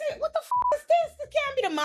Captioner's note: beep